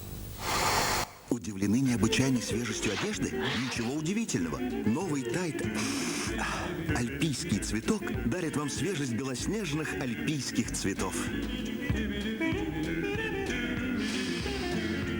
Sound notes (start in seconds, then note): 0.3 sniffs; 6.1 sniffs; 11.5 optimistic music